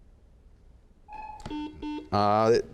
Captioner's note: beeping; buzzes